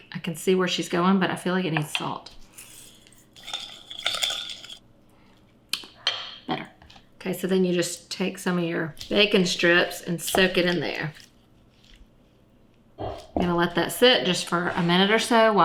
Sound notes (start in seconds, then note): 2.5 salt trickling; 2.6 spoon whisking